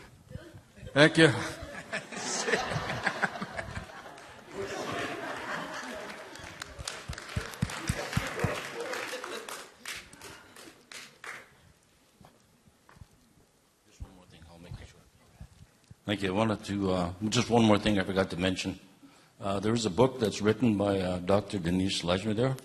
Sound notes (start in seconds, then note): 5.8 laughter; 6.2 applause